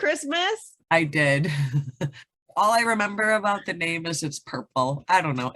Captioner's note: giggles